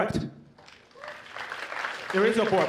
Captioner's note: applause